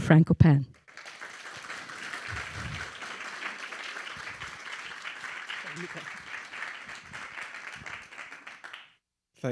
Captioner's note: applauding